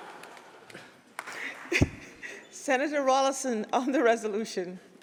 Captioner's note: laughter